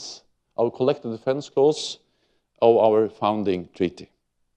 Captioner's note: none